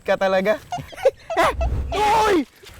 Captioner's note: both laugh